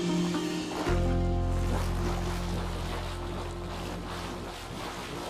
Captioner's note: water bubbling